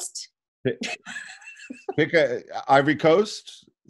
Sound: chuckling

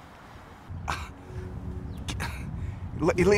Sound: Ezekiel scoffs

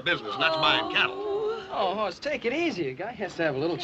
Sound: girls groaning

